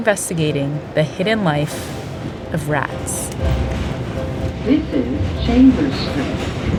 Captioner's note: soundbite of subway ambience